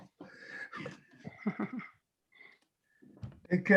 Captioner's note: chuckling